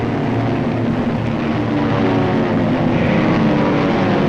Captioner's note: planes roaring